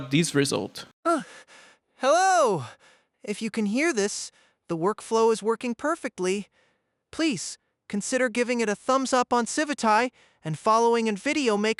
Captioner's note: designed Voice Audio Playing